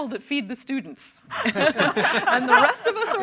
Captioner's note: everyone laughs